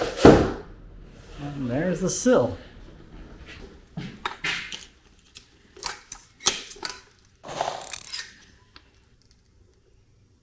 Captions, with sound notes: (boards clank) And there's the sill. (tools clanking)